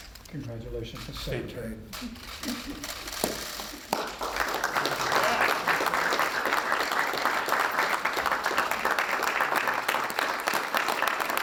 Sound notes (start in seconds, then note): 5.5 applause